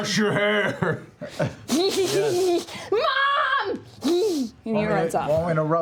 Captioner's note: giggling